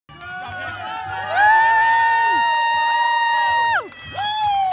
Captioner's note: people cheering